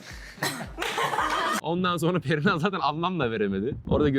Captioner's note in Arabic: ضحك